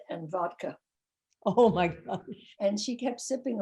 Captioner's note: laughing